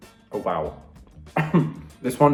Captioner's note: coughs